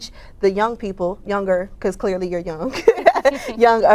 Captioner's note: laughs